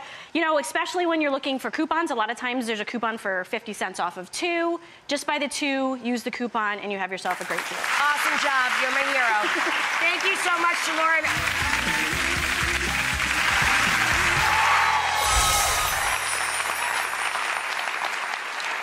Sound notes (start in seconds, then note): 11.2 upbeat music; 11.6 cheers and applause; 14.9 magical music